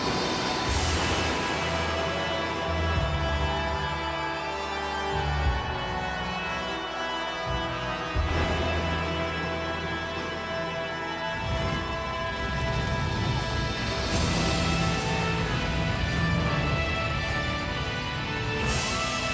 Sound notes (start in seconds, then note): 0.2 ominous music continues; 4.3 audience cheers